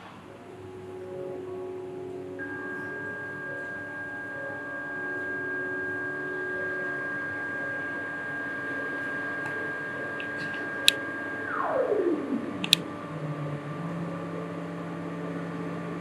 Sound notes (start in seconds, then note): 4.1 ringing Sound